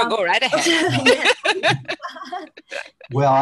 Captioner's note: laughter